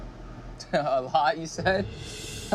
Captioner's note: laughing